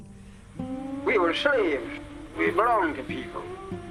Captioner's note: fountain